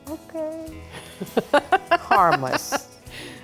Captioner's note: laughter